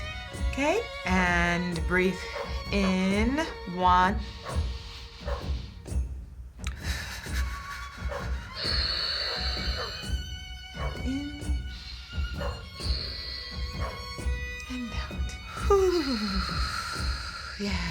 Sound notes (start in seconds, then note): 4.6 inhaling; 6.7 exhaling shakily; 8.7 exhaling; 11.4 inhaling; 16.2 exhaling